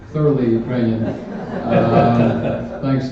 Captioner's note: laughter